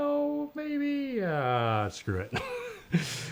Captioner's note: laughs